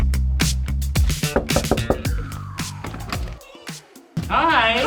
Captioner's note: knuckles tapping